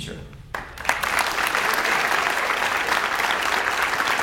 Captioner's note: audience applauds